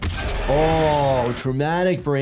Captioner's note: monster screams